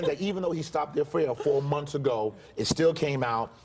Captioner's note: laughter